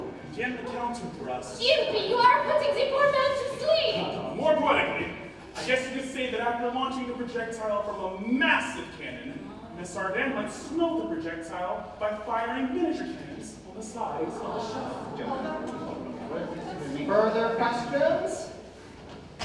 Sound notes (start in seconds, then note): 13.9 ensemble murmurs